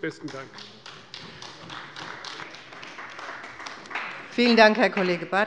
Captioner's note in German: Beifall bei Abgeordneten der CDU